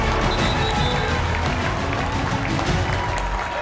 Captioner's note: whistle blowing; audience cheers and applauds